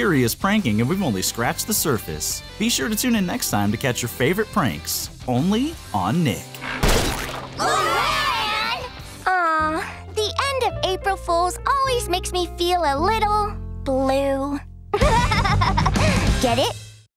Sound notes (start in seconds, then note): 15.0 laughing